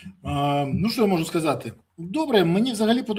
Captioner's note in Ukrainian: сопіння